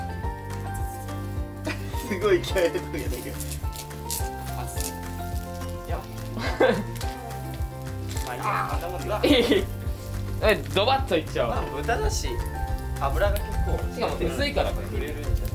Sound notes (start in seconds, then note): 13.7 laughs